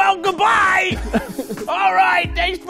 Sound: laughing

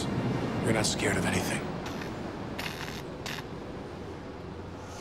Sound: electricity crackling

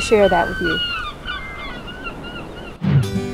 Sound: sound of sea gulls

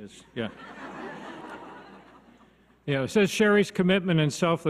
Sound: audience laughs

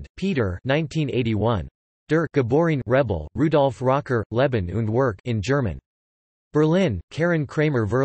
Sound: in German

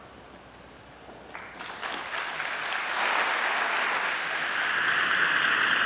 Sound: audience applauding

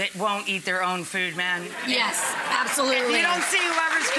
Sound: audience cheering

